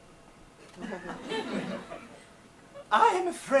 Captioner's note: audience laughs